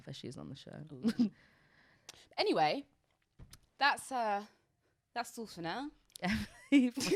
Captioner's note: both laughing